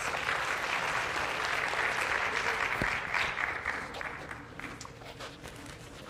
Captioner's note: applause